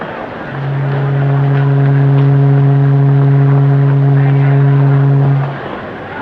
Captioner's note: ship horn